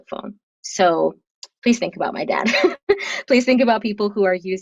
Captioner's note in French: rires